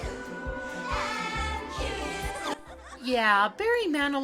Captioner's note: giggling